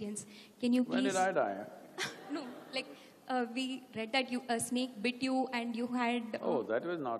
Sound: laughter

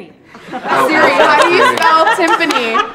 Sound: laughter

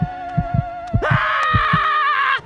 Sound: screaming

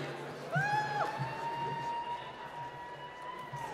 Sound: applause

